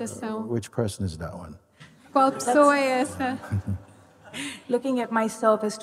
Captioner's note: laughter